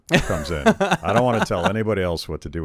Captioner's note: laughing